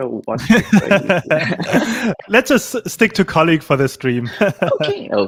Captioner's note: laughs